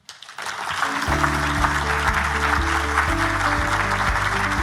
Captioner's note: audience applauding